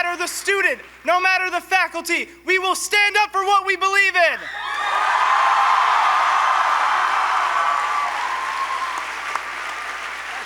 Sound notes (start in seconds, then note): 4.6 applause